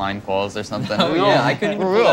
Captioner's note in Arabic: ضحك